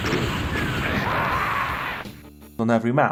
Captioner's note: music and explosions; doomguy got fragged and screams